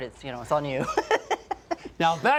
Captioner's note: laughs